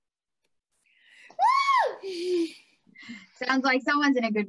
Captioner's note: AMON Cheers